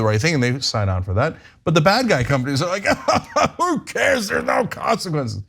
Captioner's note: laugh